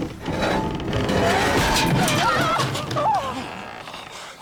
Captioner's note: screams